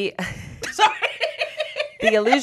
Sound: laughs

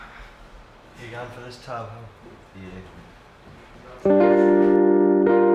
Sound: none

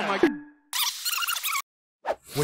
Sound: video reversing quickly

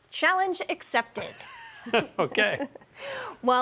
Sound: laughs

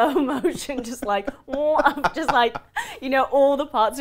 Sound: laughs loudly

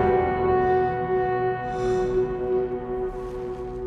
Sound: horn blowing

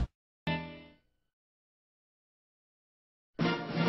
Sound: silence; rousing fanfare playing

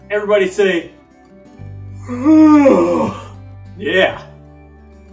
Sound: yawning

